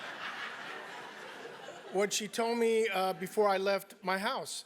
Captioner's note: laugh